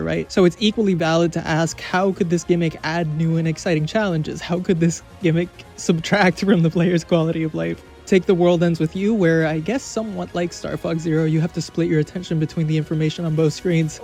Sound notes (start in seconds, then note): 6.4 chuckles